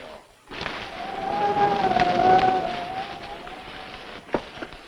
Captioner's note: wind howling